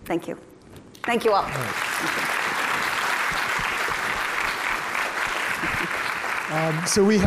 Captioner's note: applauding